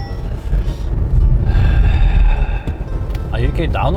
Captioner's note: A sigh from the heart